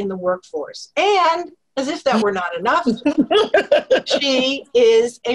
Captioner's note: laugh